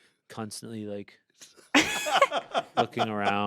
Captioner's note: everyone laughs